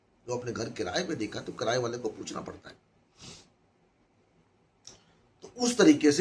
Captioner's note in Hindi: नाक से की जाने वाली आवाज़